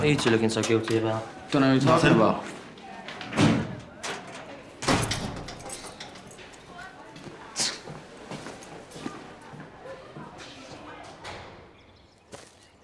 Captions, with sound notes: What are you two looking so guilty about? -Nothing. -What are you talking about? [scoffs]